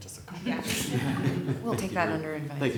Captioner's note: laughter